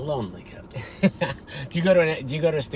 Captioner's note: laughs